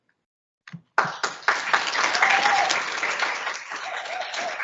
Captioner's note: audience applauds